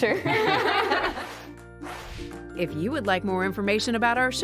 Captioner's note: laughter